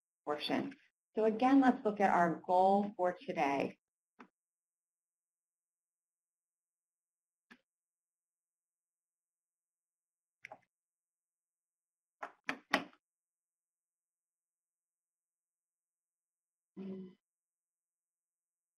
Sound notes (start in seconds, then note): 10.4 pause